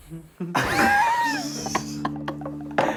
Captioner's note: laughing